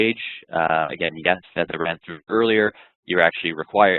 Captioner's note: voice muffled